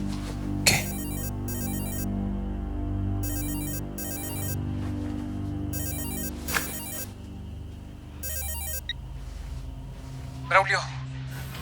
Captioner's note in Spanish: Suena el celular